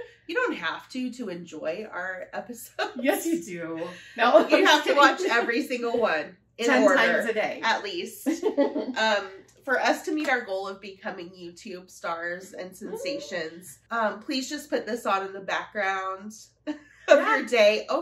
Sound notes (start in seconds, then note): 8.2 laughter